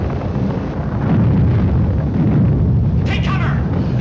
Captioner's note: thunder crashing